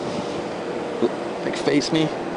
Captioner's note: vehicles roaring